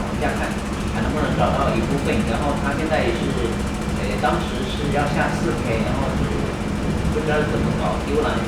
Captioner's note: speaking in Mandarin